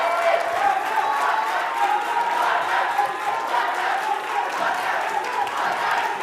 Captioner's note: whistles; chanting in foreign language